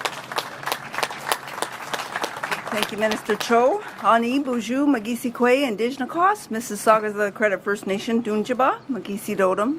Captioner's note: applause